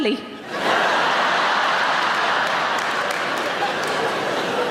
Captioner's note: audience laughing